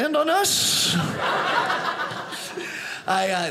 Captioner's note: audience laughing